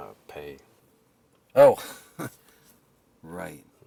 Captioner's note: Kester chuckling